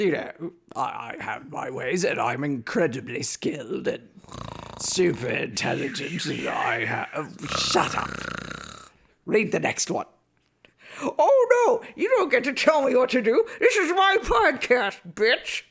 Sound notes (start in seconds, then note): 4.2 snores